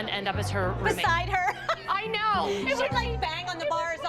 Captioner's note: laughs